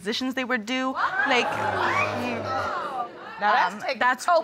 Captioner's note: audience exclaims